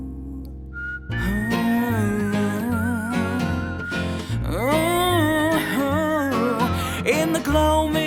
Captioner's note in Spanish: Tarareando